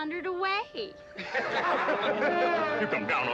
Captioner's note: crowd laughing